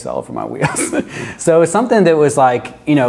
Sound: chuckles

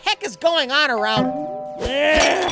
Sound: doorbell rings; groaning

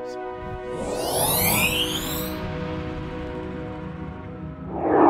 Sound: digital zooming sound effects

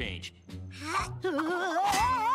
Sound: grunting

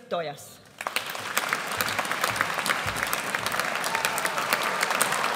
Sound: audience applauds

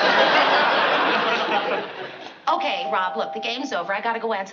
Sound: doorbell ringing

